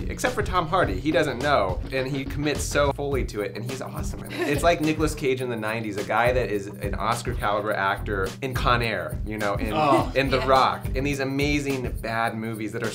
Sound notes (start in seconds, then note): 4.2 laughs